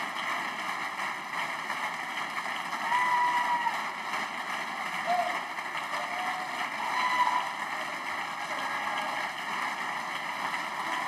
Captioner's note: applause